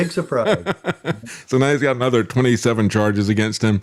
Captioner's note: laughing